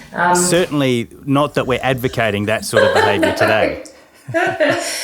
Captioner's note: both laughing